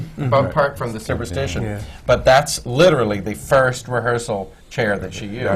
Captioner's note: laughter